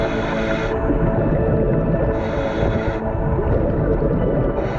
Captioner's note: underwater breathing